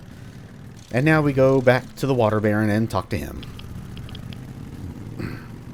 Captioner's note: clears throat